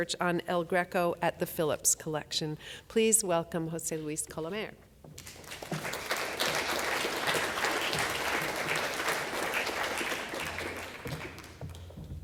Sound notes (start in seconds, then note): 5.2 audience applause